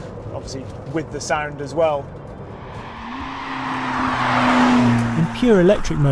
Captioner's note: engine rumbles